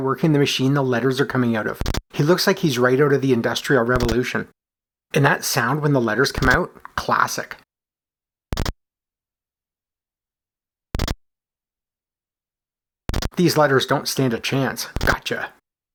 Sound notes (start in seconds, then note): 8.5 C64 'chunk' sound